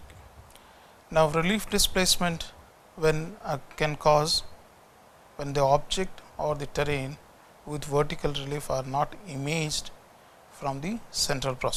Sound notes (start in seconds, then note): 7.6 distortions